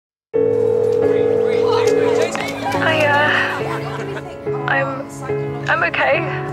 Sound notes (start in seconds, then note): 0.4 phone ringing; 1.4 excited chatter; 3.0 girl on phone; 4.1 tearfully